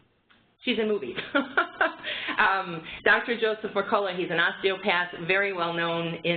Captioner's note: laughter